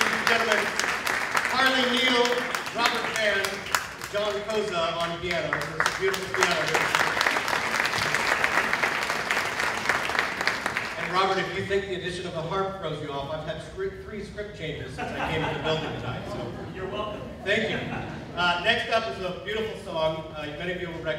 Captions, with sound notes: - Ladies and gentlemen, Carley Neill, Robert Vann, John Cozza on piano. There was some beautiful piano there. [ applause ] And Robert, if you think the addition of a harp throws you off, I've had three script changes since I came into the building tonight, so-- - Oh, you're welcome. - Thank you. Next up is a beautiful song.